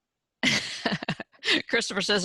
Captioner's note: laughs